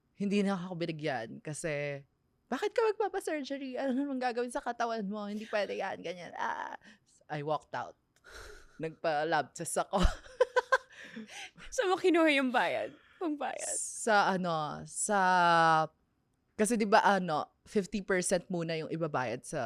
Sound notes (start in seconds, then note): 11.1 laughs